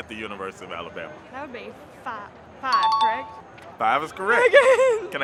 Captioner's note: chime dings